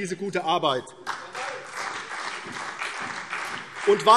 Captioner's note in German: Beifall CDU und BÜNDNIS 90/DIE GRÜNEN